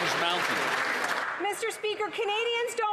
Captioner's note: applause